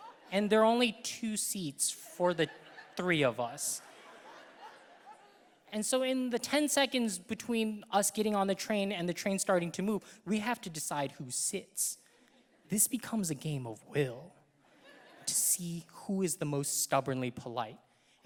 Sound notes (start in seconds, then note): 3.6 audience laughing; 14.6 audience laughing